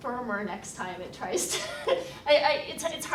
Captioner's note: laughs